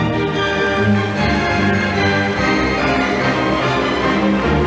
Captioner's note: audience applauding